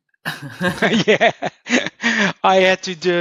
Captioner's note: laughing